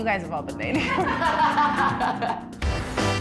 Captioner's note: girls laughing; upbeat jazz music